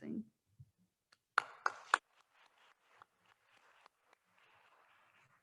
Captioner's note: attendees applauding